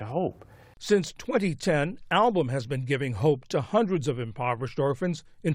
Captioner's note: voice-over